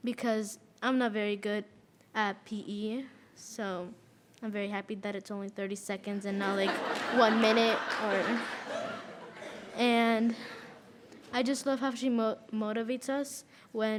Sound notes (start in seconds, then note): 6.4 audience laughs